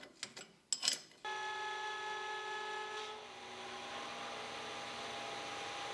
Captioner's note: machine motor hums